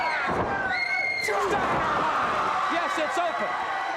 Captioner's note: audience cheers